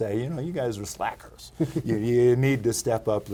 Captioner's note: laughing